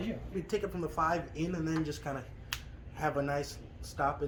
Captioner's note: snapping